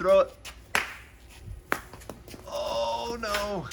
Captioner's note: tennis ball bouncing